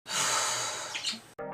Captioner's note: sigh